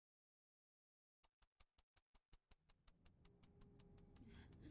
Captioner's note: clock ticking